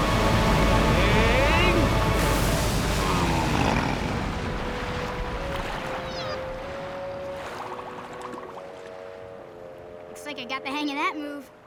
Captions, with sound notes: Aang! [grunting] Looks like I got the hang of that move.